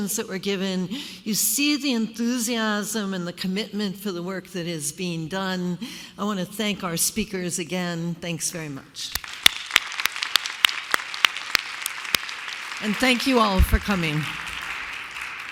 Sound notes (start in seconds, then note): 9.2 applause